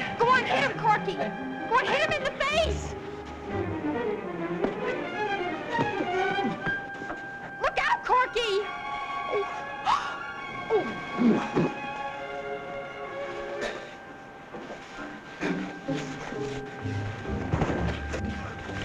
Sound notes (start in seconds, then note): 4.1 dramatic music; 9.8 gasping